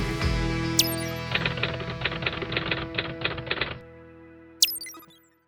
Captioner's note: typing sound